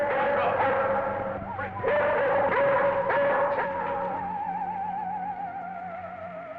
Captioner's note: Venus barking